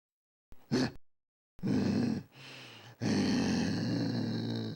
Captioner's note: Groden growls